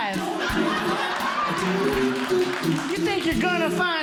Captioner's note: audience Laughing